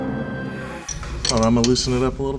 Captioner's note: metal clanking